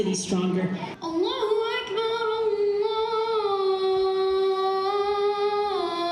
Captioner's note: boy reciting prayer in Arabic